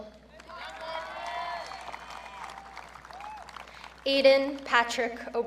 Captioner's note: audience cheering